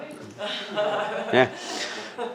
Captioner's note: laughter